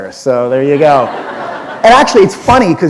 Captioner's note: laughter